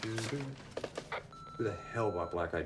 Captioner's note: answering machine beeps